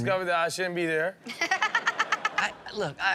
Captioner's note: Chanel laughing